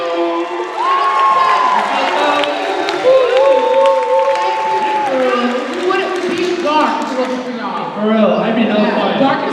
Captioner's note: cheers and applause